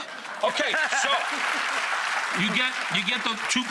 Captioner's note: audience applauds